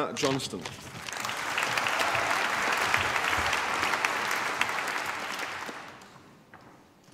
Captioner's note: applause